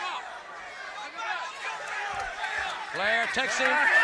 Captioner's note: crowd chatter